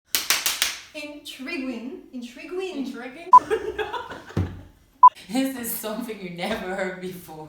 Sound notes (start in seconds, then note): 0.1 hands clapping; 3.4 laughter